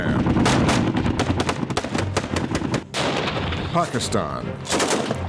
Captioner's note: gunfire